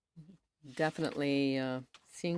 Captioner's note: speaking French